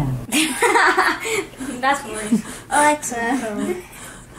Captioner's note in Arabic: يضحك